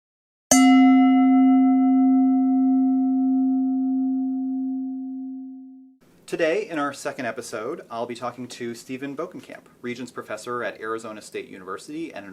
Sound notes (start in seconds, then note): 0.5 bell dings